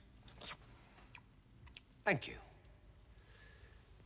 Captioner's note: slurping